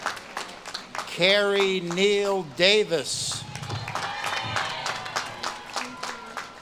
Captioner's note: audience claps and cheers